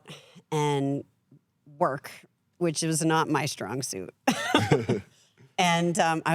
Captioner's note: laughs